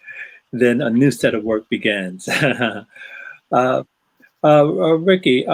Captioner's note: chuckling